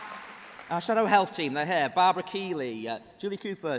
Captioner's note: applause